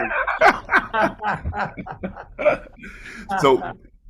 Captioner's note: participants laughs